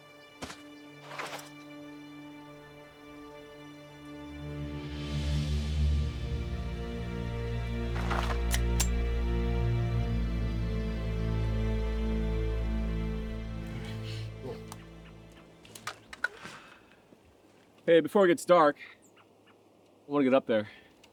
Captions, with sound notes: (Bushes rustle) [Dramatic sting] (Pistol cocks) Hey, before it gets dark, I wanna get up there.